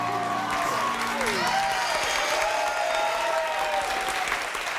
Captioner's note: applauding; crowd cheering